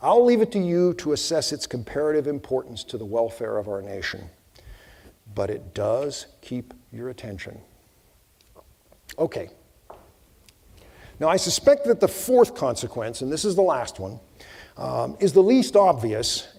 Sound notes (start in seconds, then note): none